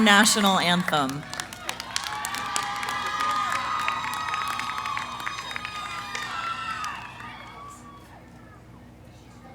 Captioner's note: cheering, applause